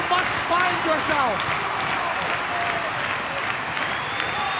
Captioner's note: crowd clapping